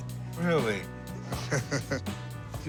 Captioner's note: chuckles